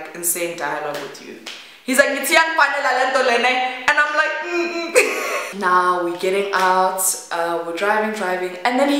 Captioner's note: mm mm